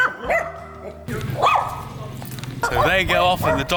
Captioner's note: more dogs barking